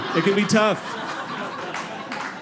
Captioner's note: audience laughing